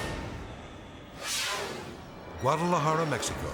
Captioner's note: air whooshes